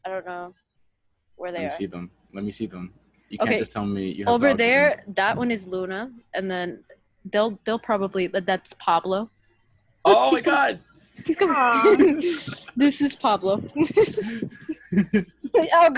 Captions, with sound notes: You can’t just tell me you have two… Over there… that one is Luna and then they’ll they’ll probably that’s Pablo Eli Oh my God Julie Oh he’s com… he’s coming! This is Pablo [laughing quietly] Oh God he’s attacking, somebody else go